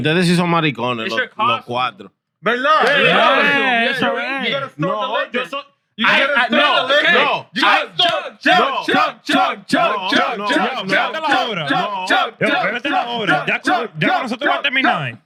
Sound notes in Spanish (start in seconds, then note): 2.4 Hablando en idioma extranjero; 2.4 Riendo